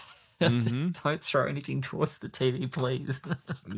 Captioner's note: laughs; laughs